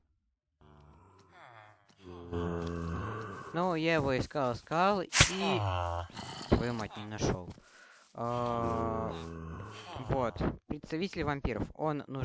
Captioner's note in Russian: стон